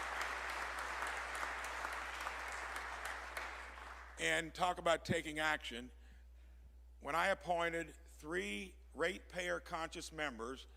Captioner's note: applause